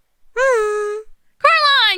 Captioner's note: A hummed hello